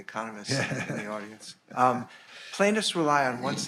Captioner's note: laughing